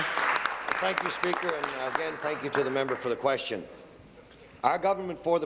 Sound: applause

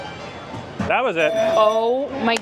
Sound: jazzy music; bell ringing

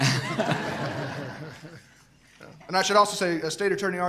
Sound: laughter

